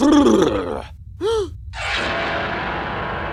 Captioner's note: audible gasp